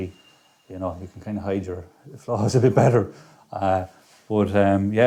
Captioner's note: laughs